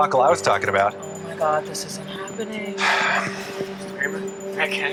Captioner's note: exhales sharply